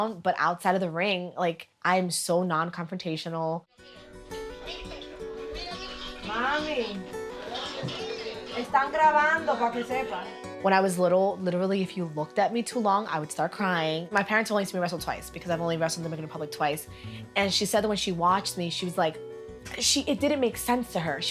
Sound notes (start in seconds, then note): 3.7 bright music; 8.8 speaking Spanish